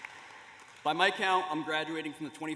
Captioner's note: applause